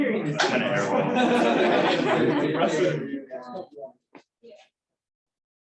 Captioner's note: laughter